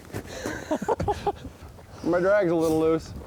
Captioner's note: laughing